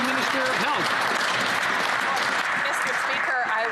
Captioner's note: some Applause